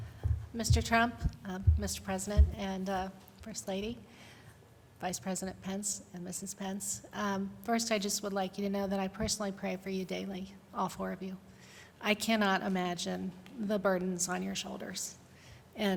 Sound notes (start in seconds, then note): none